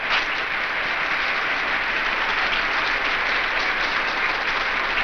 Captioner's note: audience applauds